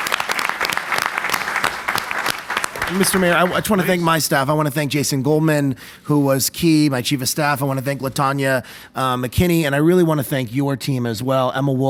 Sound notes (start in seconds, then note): 4.2 plapause